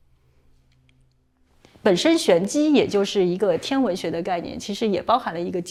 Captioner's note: non-english speech